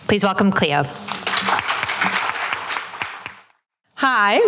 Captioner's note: applause